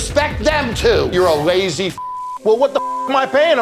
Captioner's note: beep